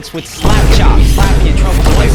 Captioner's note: boom